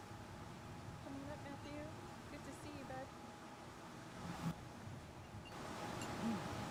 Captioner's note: faintly speaking